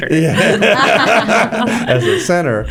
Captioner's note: laughter